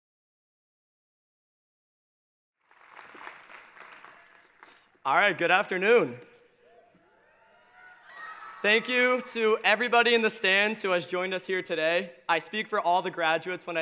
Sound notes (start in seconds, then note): 2.6 applause; 6.6 cheering